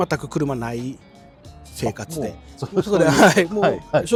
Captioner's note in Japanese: 笑い